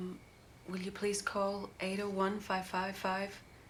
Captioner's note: none